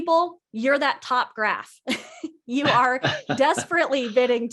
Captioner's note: laughing